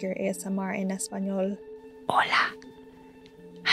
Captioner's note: whispers